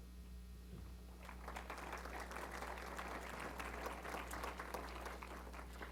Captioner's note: applause